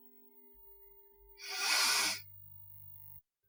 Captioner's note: sniffs